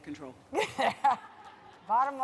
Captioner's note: laughter